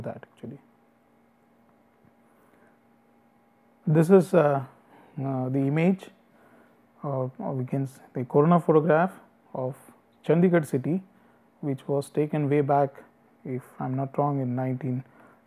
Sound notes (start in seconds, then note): 6.9 distortion